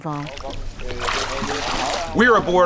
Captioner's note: water splashing